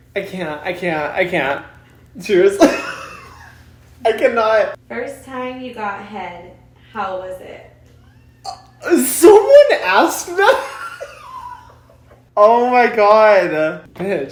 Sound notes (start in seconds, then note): 2.6 laughs; 10.3 laughs